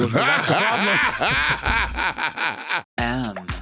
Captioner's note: Latrice laughing